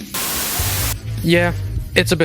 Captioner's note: Static